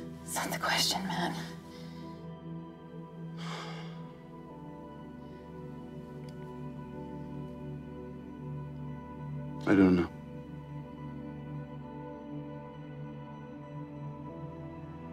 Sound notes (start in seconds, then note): 3.4 sighs; 11.6 soft dramatic music